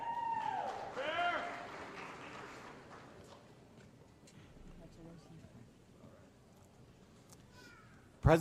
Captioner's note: applause